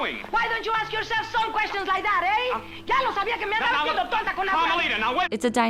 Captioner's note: starts speaking angrily in Spanish